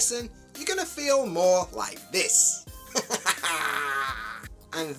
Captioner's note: happy sounds